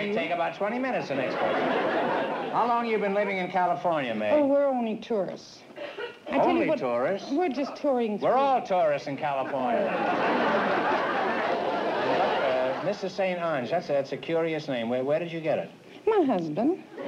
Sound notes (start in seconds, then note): 9.4 laughter